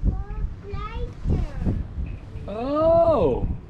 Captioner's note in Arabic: يتحدث بلغة أجنبية